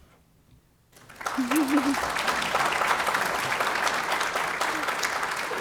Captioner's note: audience applauds